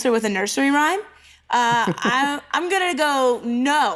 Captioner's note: laughs